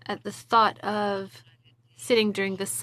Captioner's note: speaking in French